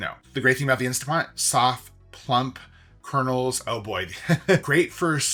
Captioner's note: laughs